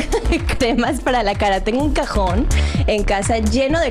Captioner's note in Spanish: risas